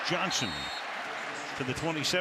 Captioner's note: whistle blows